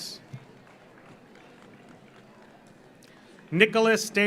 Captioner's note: audience applauds